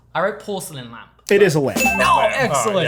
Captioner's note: bell dings